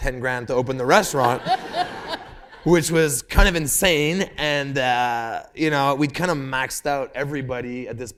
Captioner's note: laughter